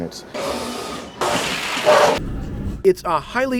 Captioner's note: machine rumbling